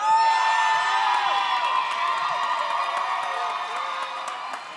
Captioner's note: audience cheers